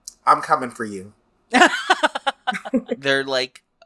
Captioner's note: laughs